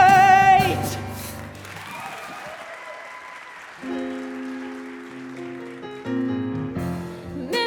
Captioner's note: audience applause